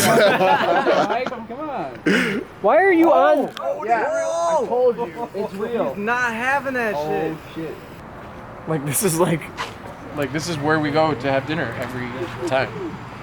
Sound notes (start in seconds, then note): 0.0 laughs; 3.5 everyone gasps